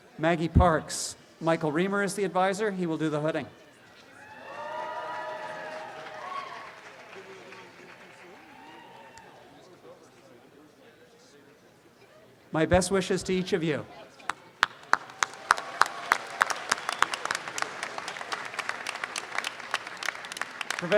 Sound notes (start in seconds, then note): 4.2 audience applause; 14.6 audience applause